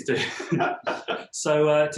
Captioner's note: laughing